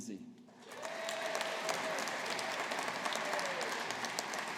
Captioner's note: audience applauding